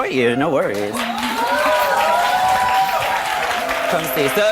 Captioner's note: audience cheering; laughs